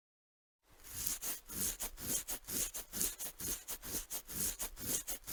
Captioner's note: Garfield scratching